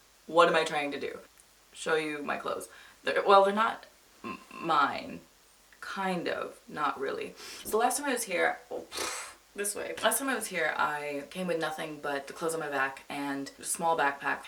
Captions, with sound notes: What am I try to do? Show you my clothes. They're—Well, they're not...m—mine... Kind of...Not really. *inhales* So, last time I was here—Oh— *blows raspberry* This way. Last time I was here, I came with nothing but the clothes on my back and a small backpack.